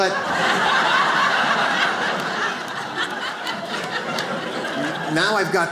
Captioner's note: audience laughs